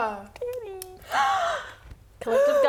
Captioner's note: gasps